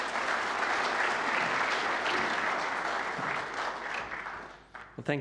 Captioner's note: audience applauds